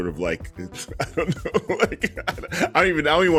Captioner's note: laughs